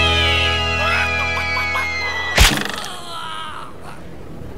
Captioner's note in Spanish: Sonido de cacareo